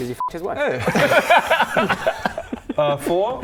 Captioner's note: cracks up